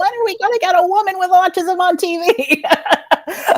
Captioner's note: laughs